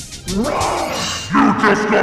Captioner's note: roars